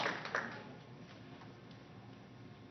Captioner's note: applause